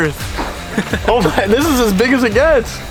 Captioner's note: both laugh